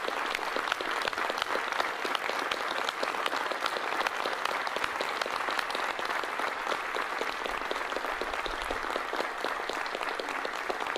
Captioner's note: applause